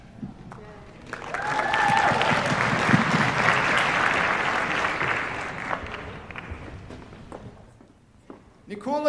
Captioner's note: cheers, applause